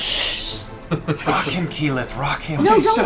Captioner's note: whispers